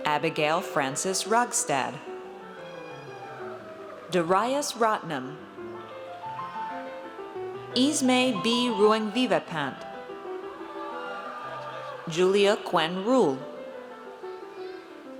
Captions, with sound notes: Abigail Frances Rogstad. Darius Rotnam. Esme B. Ruengvivatpant. (audience cheers) Julia Quin Ruhl.